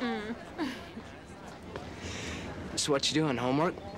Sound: Brenda laughs

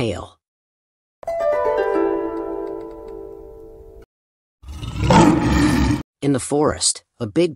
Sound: sound effect

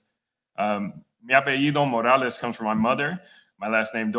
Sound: speaking Spanish

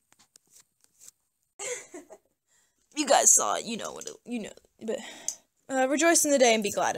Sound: laughing

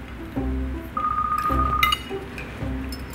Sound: ringing

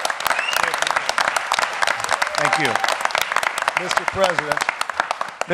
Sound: applause

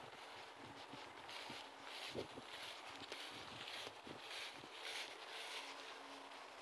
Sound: scuffle scuffle

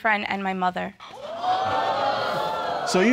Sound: audience exclaiming

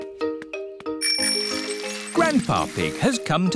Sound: bell rings

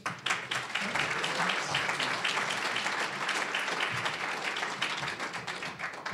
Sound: applause

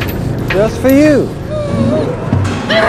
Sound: whimpers

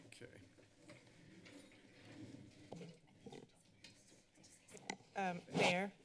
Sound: background conversations

